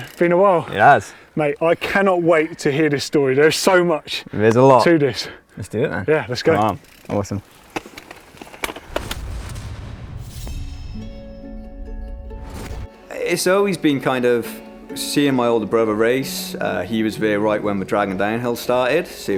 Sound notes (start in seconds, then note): 8.9 metallic blast; 11.0 gentle harp music